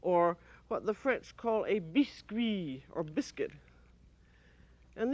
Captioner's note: french